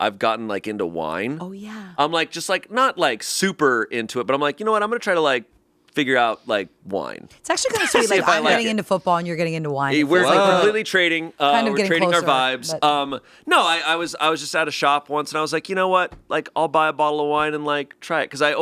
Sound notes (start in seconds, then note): 7.7 laughing